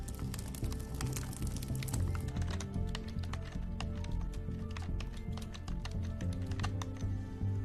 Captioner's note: typing